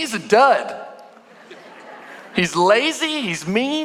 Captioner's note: congregation laughing